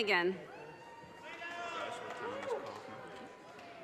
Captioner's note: audience cheers and applause